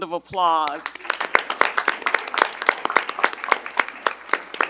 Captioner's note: audience applauding